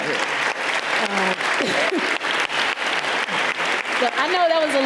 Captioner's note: audience applauding